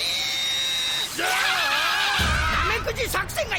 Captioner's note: screaming